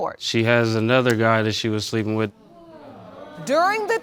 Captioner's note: audience exclaims